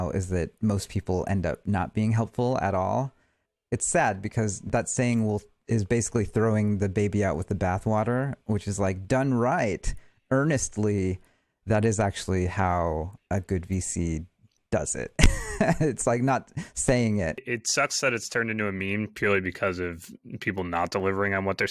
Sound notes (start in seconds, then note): 15.2 chuckles